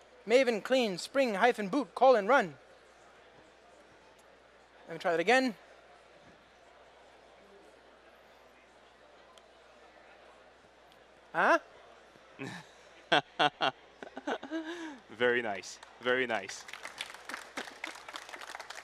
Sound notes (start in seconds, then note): 13.0 chuckles; 15.7 applause